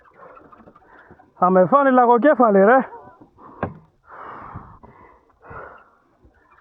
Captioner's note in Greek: αναστενάζει